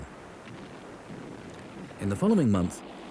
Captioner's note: cannon thuds